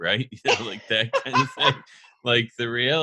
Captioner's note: laughs